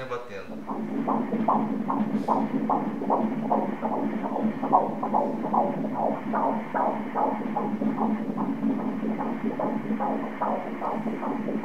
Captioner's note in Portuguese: batimentos cardíacos